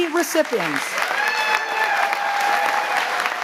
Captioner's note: cheering